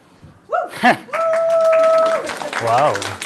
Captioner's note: applause